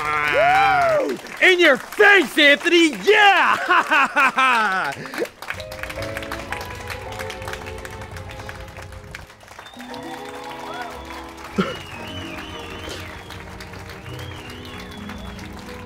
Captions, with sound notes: WOOOOOOOOOOOO!!!! In your face, Anthony! Yeah! Ha ha ha ha! *Cries in depression*